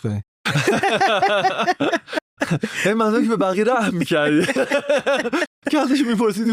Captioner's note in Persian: خنده